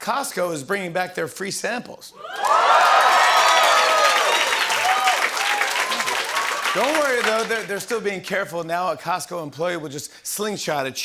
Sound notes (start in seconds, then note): 2.2 cheering and applause